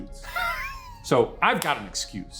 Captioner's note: laughing